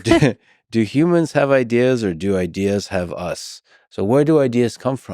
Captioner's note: chuckles